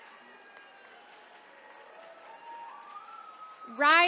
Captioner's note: attendees cheering